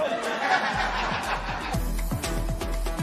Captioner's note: laughter